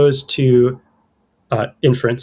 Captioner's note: uh